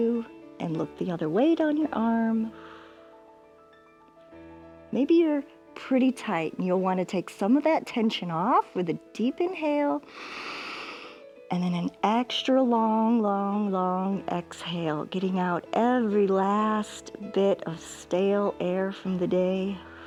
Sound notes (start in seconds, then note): 10.0 inhales